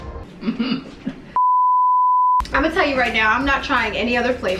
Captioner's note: sharp beep noise